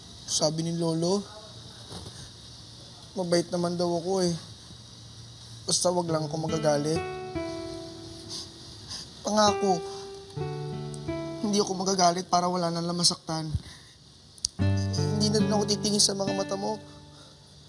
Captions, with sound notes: Grandpa said that I'm a good person. As long as I don't get angry. [sniffles] I promise. I won't get mad so that no one gets hurt. I also won't look at your eyes.